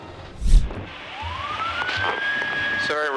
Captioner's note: sirens